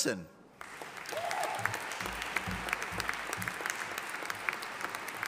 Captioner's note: audience applauding